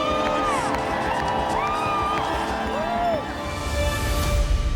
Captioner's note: crowd cheering